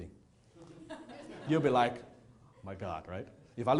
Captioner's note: audience chuckling